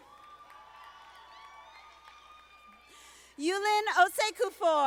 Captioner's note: audience applauding